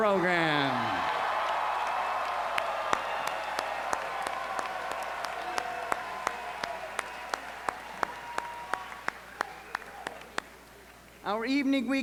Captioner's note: applause